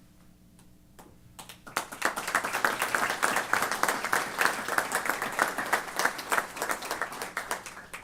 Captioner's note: applause